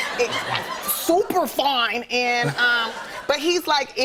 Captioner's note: laughter